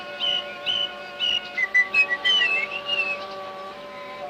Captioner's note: whistles